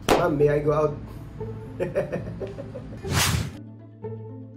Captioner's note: laugh